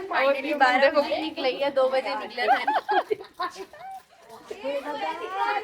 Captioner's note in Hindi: हंसी